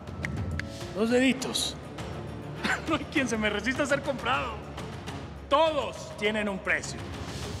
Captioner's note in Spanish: truena dedos